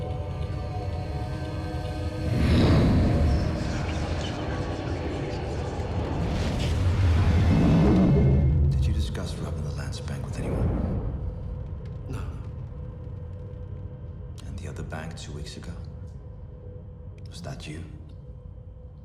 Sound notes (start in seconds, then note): 2.0 flames roar